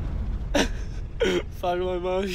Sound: laughs

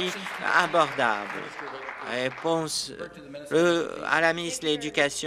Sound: applause

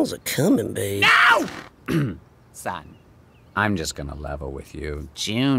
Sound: clears throat

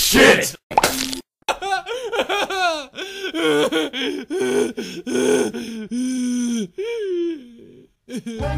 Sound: Mario crying

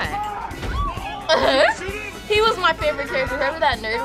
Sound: laughs

